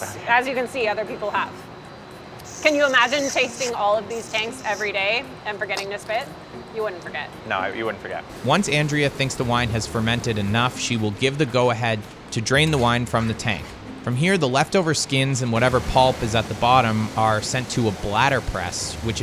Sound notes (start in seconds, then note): 5.8 spitting; 8.3 wine pouring